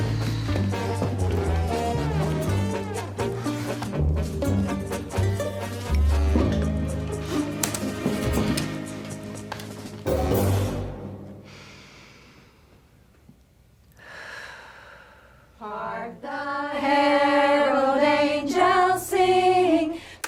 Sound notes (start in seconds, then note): 0.0 quirky music; 11.4 inhales, then exhales